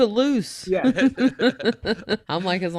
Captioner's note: all laughing